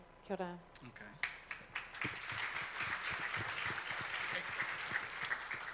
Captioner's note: audience applauds